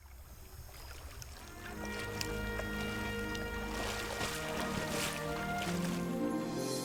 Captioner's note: splashing water